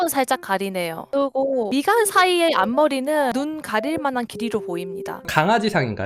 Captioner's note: voiceover